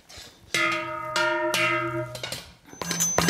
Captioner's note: sounds of bells